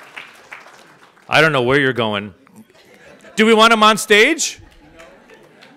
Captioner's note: audience applauds; audience laughs and chatters; audience laughs